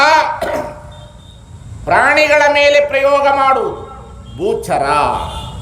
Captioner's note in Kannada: ಗಂಟಲು ಸರಿಮಾಡಿಕೊಳ್ಳುವಿಕೆ